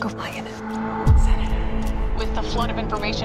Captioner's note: whispering